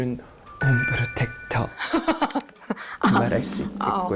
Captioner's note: sound effect: trying to sound upscale